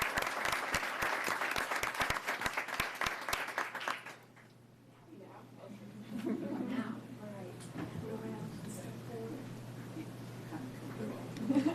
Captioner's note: applause